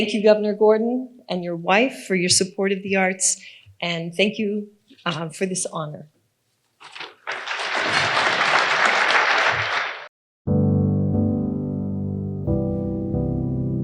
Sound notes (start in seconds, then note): 6.9 audience applauding; 10.5 soft piano music